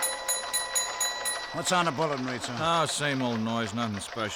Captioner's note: keys clacking, bell dinging